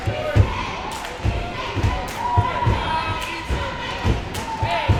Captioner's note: cheering from audience